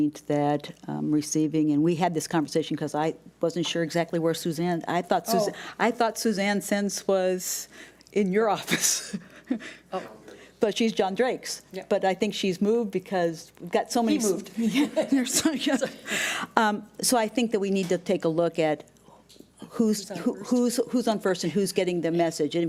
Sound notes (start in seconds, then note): 8.9 laughs